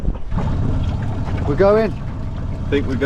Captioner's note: motor rumbling